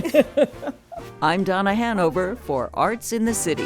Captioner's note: laughing